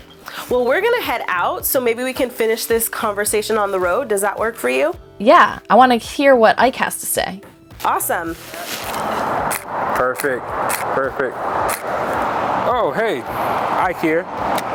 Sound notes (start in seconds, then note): 8.8 cars passing by in the distance; 10.7 camera snapping